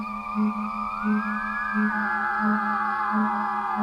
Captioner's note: pulsating noise